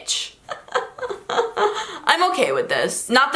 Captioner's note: laughter